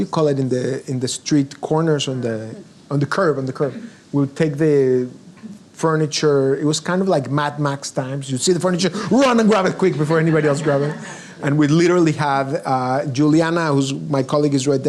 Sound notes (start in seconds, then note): 8.7 audience laughs